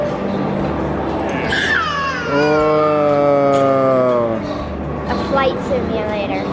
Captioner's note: squeals